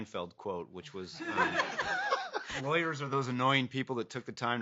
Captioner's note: laughing